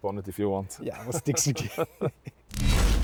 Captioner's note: they laugh